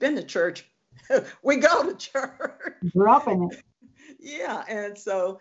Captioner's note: laughing